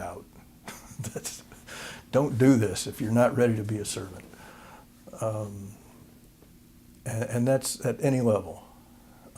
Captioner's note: laughter